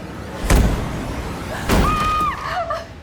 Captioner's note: intense music; Whitney screams